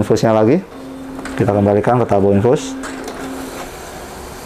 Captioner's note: printer machine sound; infused tube holder sound; printer machine sound